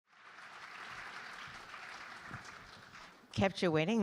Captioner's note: audience clapping